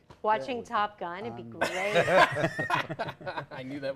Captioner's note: laughter